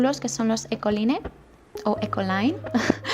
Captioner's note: laughs